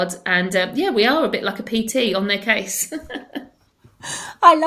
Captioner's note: chuckles